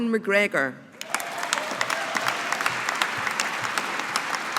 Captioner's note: audience applauding